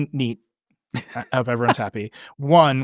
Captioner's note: chuckling